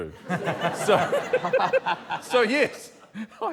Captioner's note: laughter